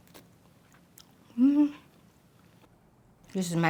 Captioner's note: blows